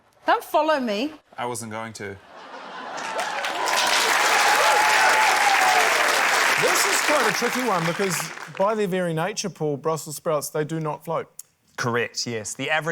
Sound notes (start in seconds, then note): 2.2 laughter; 4.5 cheering, applause